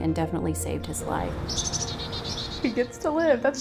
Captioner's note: birds chirping